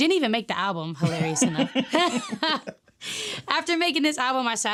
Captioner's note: both laughing